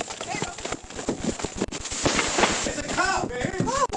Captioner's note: static noises